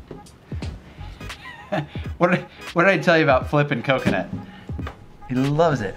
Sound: laughs

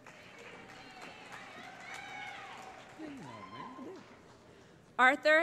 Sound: cheering

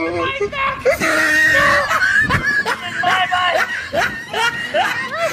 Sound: wheezing

